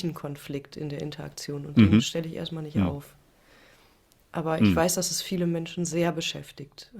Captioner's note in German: räuspern